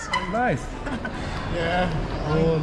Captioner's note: clap clap